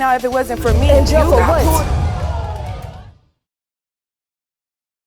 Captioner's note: audience gasping